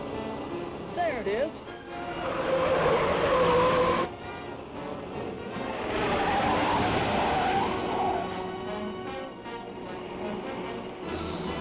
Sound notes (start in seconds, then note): 2.5 tires screech; 4.5 dramatic music